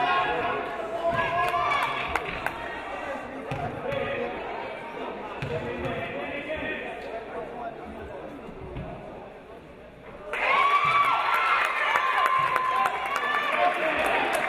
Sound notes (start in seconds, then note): 10.3 audience cheering